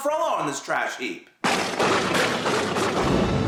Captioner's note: sudden crashes of thunder engage